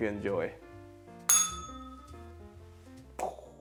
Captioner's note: bell rings